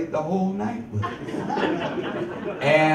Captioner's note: audience laughs